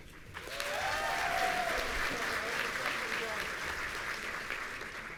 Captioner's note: audience cheering